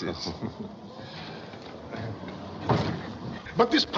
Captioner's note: chuckles